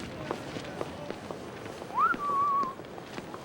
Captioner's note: whistles